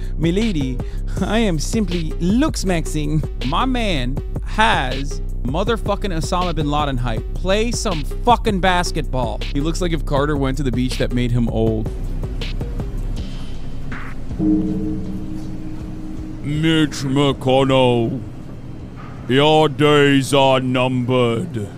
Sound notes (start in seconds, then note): 14.4 death bell ringing